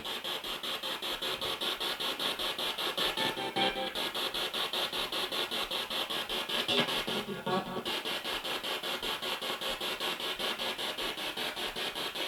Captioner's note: sound of the Spirit Box in the background